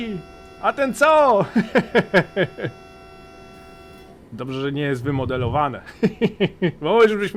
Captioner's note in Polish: śmiech